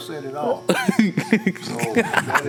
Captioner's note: laughs loudly